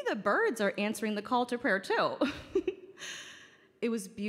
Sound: chuckles

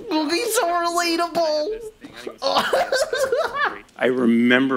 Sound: laughs in pretend geekdom

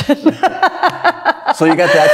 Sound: laughs

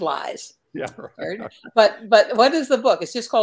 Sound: laughter

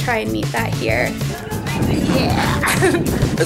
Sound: laughing

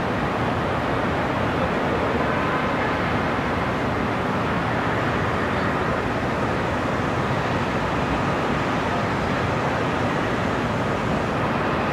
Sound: city sounds and distant cars

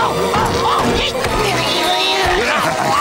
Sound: screaming; grunting

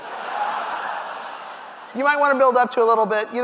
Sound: audience laughing

